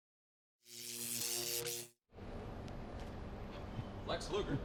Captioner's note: electricity crackles